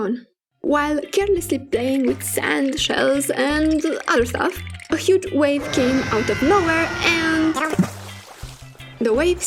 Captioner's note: splash!